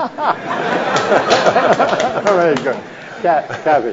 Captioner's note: audience laughs